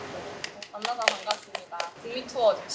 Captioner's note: everyone clapping